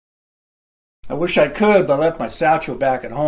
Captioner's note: none